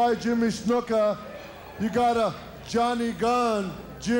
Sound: crowd cheering

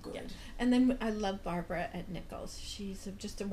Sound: voiceover

